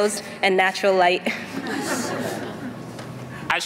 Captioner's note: laughter